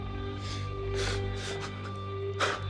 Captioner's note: gasps; panting